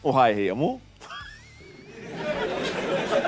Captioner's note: mockingly laughing